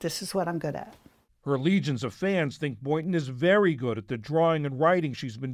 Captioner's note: voice-over